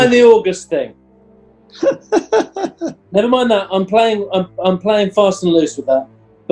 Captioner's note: giggling